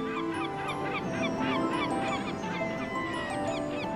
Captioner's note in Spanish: pájaros graznando